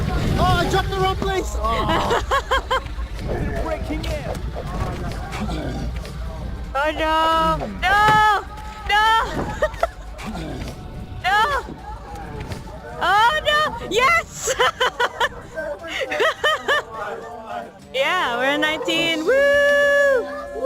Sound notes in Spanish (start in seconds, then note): 1.6 se ríe; 9.2 risas; 14.3 risa de alivio